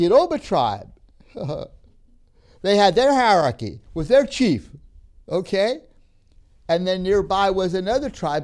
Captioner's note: laughs